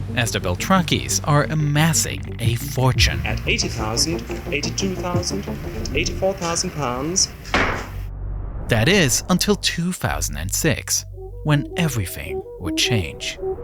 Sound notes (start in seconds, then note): 7.5 gavel thuds